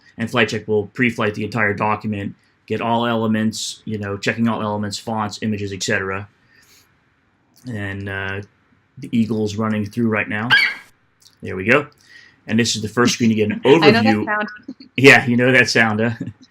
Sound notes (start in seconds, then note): 4.6 FlightCheck eagle screeches